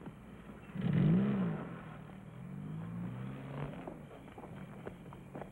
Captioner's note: vehicle rumbles away